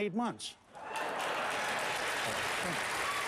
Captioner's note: applause